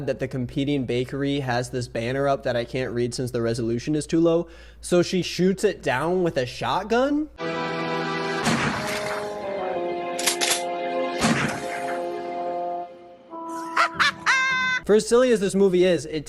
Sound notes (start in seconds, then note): 7.4 dramatic music; 8.4 shotgun bangs; 10.2 shotgun cocks; 11.2 shotgun bangs; 13.5 she cackles